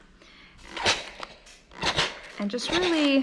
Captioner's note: steam spray squeaking